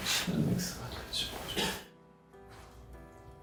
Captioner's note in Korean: 기침